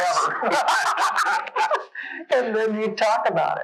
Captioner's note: laughing